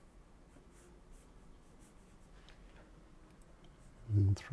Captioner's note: silence